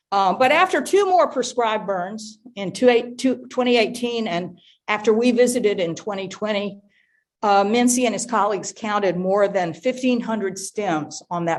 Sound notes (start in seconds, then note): none